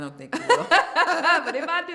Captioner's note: laughter